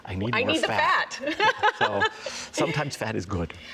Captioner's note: laughter